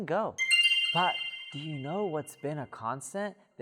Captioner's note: bell chiming